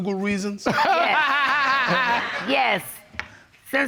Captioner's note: laughs